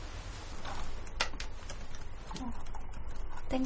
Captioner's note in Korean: 탁탁, 탁자 치는 소리